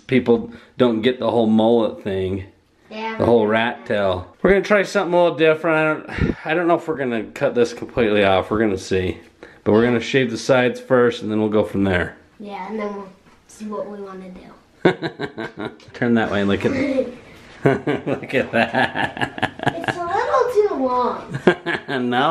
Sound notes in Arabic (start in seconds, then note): 14.8 أبي يضحك; 17.5 وكلاهما يضحك; 21.2 يضحك